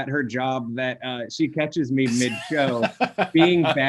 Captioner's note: chuckling